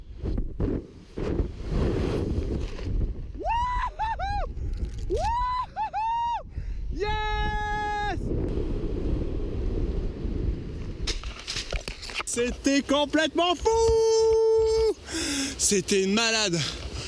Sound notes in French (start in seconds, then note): 3.1 cris d'excitation; 12.1 en criant